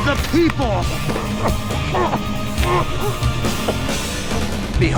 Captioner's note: gasping